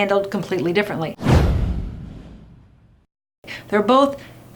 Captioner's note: dramatic boom